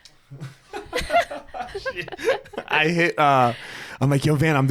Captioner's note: both laughing